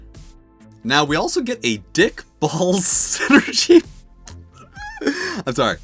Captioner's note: breaks up laughing